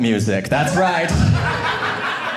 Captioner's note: audience laughing